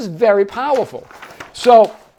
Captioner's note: paper rustling